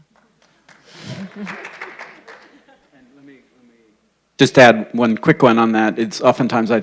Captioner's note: applause